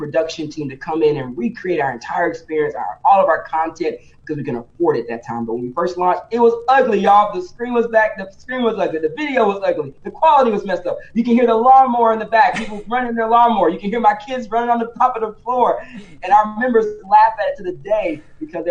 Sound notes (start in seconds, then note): 12.5 laughs